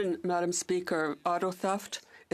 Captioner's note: speaking French